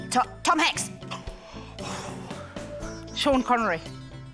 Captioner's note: exhales heavily